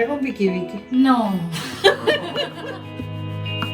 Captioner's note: laugh